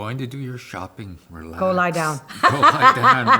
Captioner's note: laughs